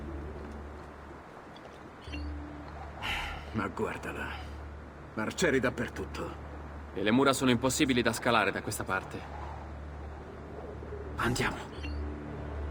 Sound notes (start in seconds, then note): 3.0 sighs